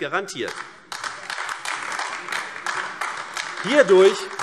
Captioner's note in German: Beifall AfD